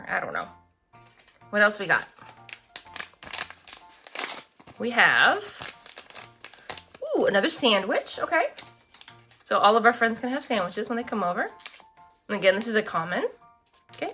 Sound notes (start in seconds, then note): none